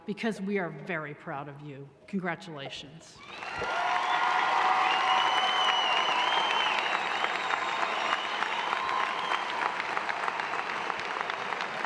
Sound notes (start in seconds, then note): 3.5 cheering; 5.9 applause